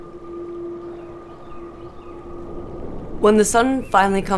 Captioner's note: birds chirp